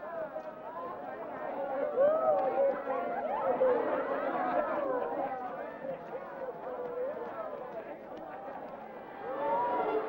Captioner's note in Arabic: ثرثرة حماسية